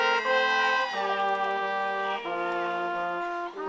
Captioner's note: audience cheering